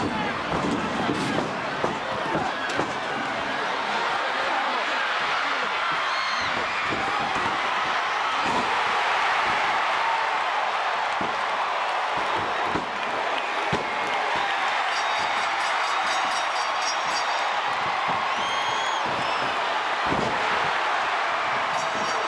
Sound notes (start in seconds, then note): 5.6 audience cheers; 15.4 bell rings; 17.7 audience applauds and cheers